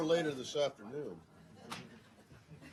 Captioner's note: laughter